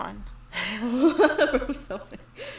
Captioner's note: laughs